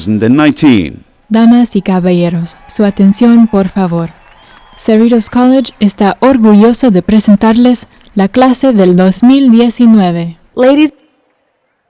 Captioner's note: speaking Spanish